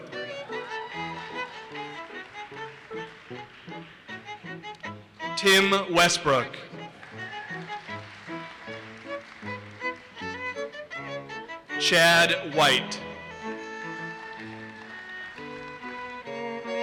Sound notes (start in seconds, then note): 0.0 audience cheers and applauses; 6.6 audience applauses; 13.4 audience applauses